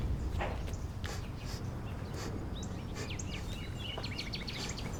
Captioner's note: sniffs